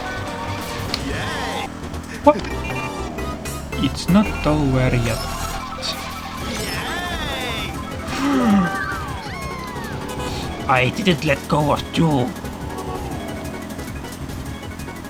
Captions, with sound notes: Hop! It's not over yet... [Gasp] I didn't let go of 2!